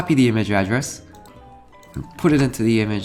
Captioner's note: mouse clicks